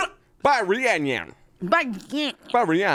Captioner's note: grumbles